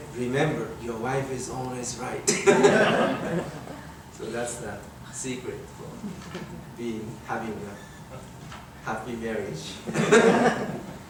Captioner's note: everyone laughing